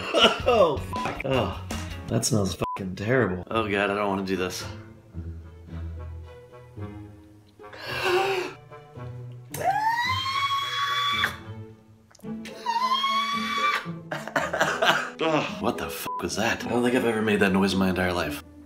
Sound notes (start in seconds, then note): 9.5 screaming; 12.4 gagging